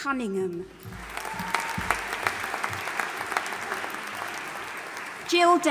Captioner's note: audience applauding and cheering